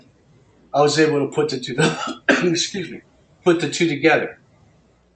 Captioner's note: cough